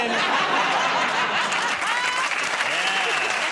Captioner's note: applause